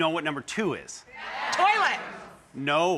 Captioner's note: audience yelling